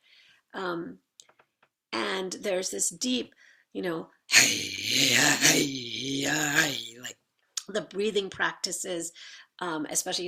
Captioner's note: makes rhythmic thrumming sound with throat